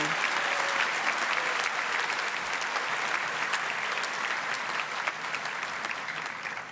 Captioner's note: cheering and applause continue